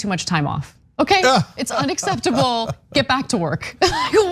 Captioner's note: laugh